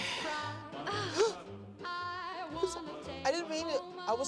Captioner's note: moans